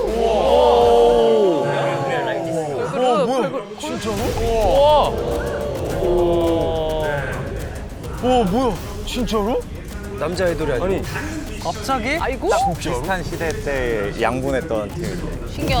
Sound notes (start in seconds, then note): 4.3 mur mur